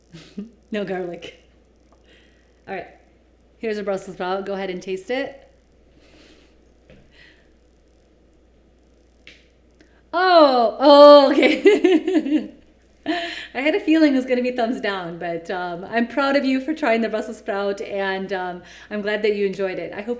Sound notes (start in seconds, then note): 0.1 laughs; 10.8 laughs